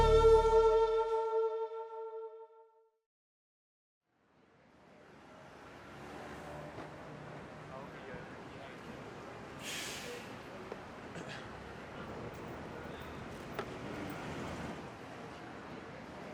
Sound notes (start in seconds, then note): 5.2 cars zooming